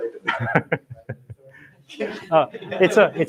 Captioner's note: laughter